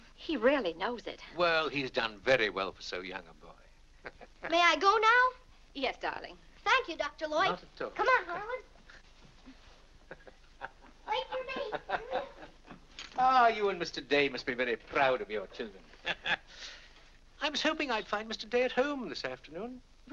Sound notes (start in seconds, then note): 10.0 Dr. Lloyd chuckles; 15.8 laughs